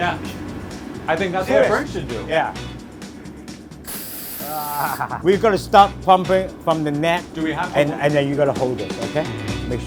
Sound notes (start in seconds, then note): 3.8 air hissing; 4.4 laughing